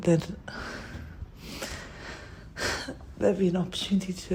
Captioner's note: breathes